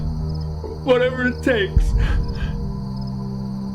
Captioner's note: crying